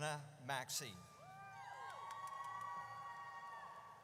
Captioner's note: audience cheers